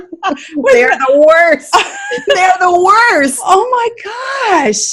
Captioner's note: laughing